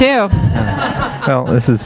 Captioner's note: audience laughing